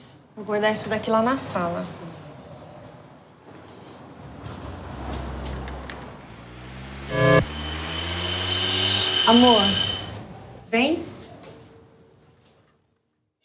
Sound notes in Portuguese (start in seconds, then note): 5.7 som de máquina acelerando